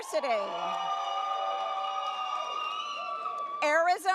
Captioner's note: audience cheers